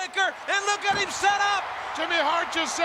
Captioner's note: crowd cheering